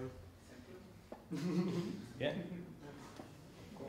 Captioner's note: chuckling